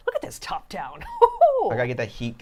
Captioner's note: chuckles